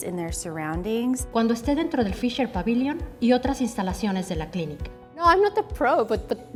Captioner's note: speaking in Spanish